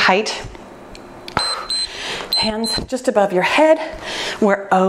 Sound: timer beeps

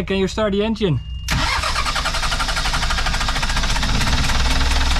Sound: engine rumbling

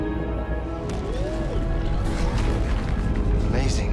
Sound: amazed woop

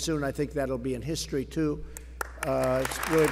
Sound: applause

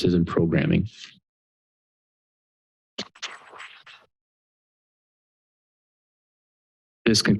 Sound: pause

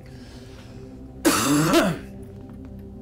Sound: coughs

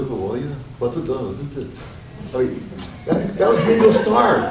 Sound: mimics fancy accent

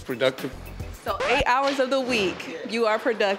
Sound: record scratch sound

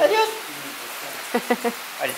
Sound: laughs

